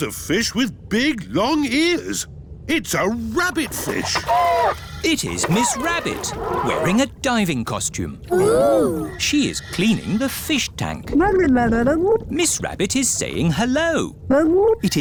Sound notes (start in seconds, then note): 11.4 gurgling